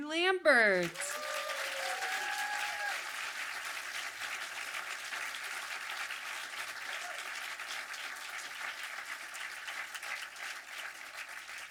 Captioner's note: audience applause